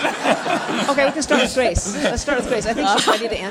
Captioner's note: laughter from audience